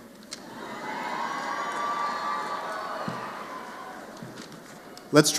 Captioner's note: cheers